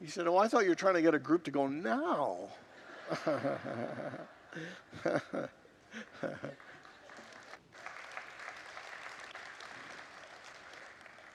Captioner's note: congregants laugh